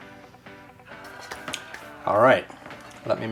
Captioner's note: man vocalizing